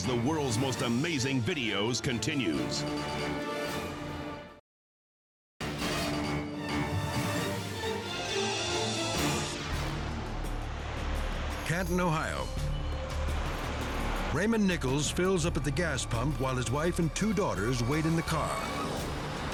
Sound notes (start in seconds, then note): 2.8 dramatic music; 8.4 screen whooshing